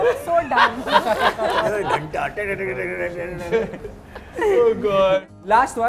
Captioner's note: laughs